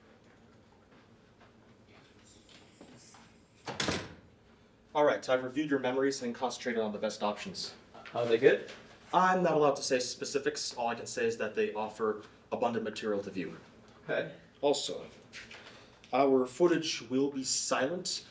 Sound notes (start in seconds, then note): 3.6 door closes